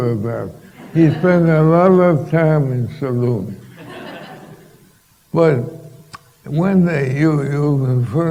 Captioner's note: laughter